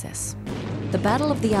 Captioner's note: guns firing